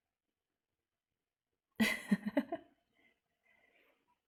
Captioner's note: laughs